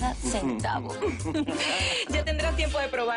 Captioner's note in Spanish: Risas